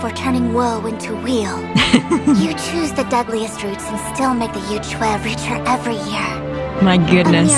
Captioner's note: laughs